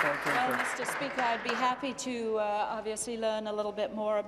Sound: applause

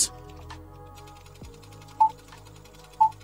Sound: projector whirring; beeping

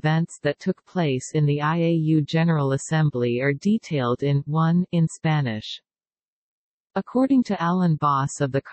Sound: in Spanish

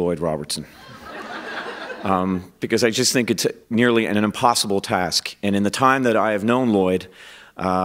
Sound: laughter

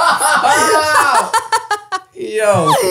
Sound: they all laugh

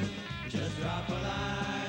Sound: none

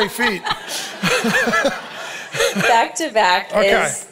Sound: both laughing

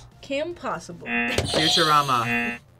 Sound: buzzer rings

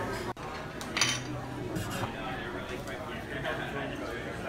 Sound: diners chatting

